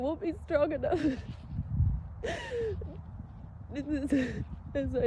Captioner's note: sobs softly through words